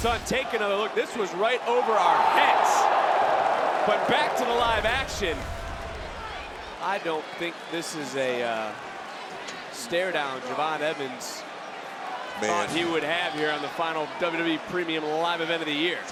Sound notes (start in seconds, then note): 3.5 crowd roars